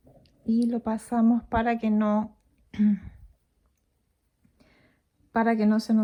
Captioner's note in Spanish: carraspeo